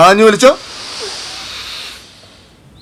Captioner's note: he Inhales